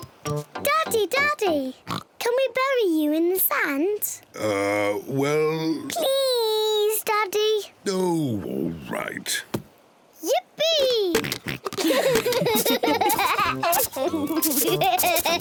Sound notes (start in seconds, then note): 1.8 oinks; 11.2 oinks; 11.7 all laugh